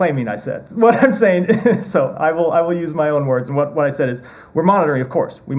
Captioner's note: laughter